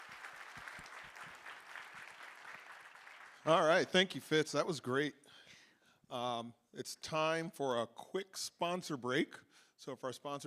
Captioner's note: applause